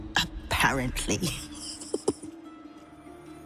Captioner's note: chuckles